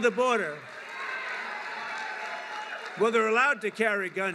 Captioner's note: applause